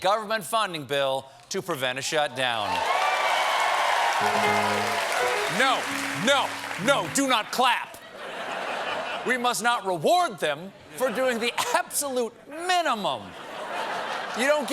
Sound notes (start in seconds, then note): 2.7 clapping